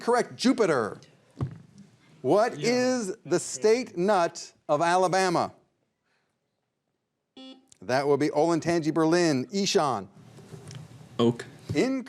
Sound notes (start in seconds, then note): 7.4 buzzer beeps